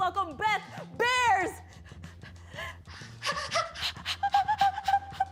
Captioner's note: both hyperventilating